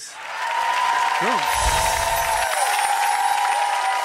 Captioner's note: audience applauds